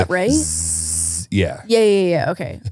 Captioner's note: buzzing